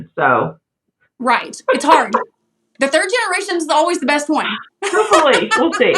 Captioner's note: laugh